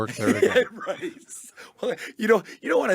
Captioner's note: laughs